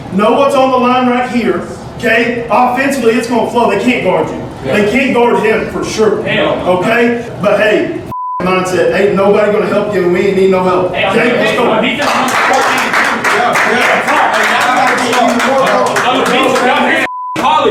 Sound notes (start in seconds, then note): 12.0 clapping and applause